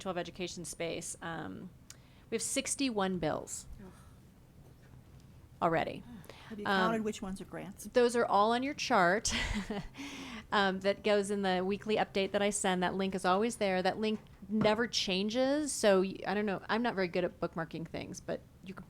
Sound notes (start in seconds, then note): 9.3 chuckles